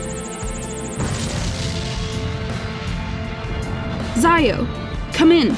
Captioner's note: tense music; ship explodes